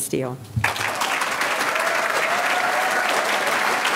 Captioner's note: audience clapping